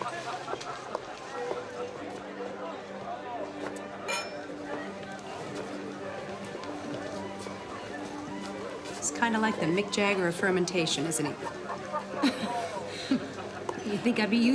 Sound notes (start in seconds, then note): 4.0 clink; 11.2 laughing